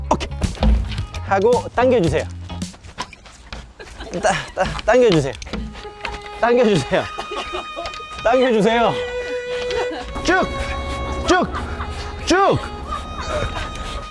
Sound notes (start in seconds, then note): 4.1 groaning